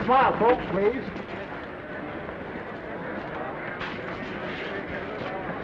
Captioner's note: attendees chattering